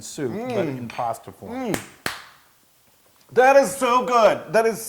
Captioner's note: applause